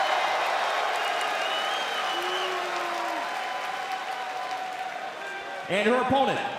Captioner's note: cheers and boos